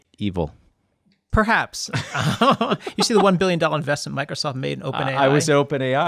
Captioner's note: laughter